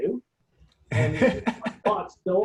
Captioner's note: laughing